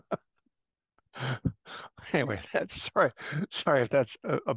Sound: laugh

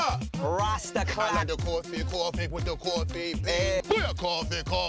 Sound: yelling and singing

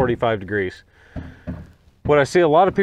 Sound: hammer banging

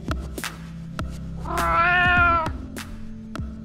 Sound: meow!

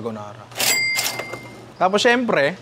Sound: cash register sound effect

